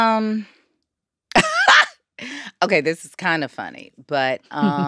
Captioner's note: laughs